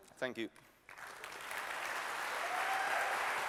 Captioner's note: applause